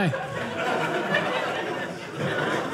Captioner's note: audience laughing